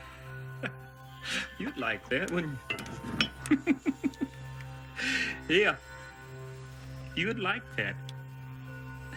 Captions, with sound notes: You'd like that, wouldn't you? (chuckles) Yeah, you'd like that.